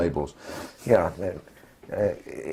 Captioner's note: laugh